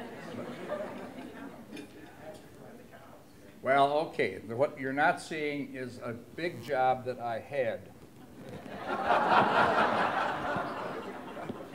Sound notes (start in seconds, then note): 0.2 laughter; 1.9 voiceover; 8.2 laughter